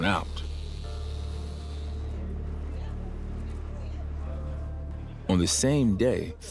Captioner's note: tool whirs; muffled chatter